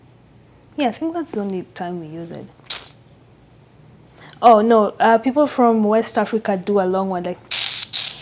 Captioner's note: mouth sound